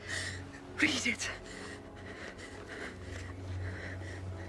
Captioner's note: gasping